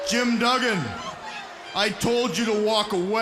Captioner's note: crowd cheering